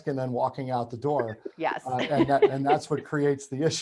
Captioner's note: laughing